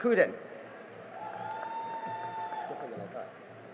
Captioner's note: cheering and applause